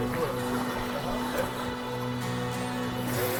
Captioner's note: waves crashing